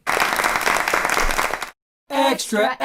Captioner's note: applause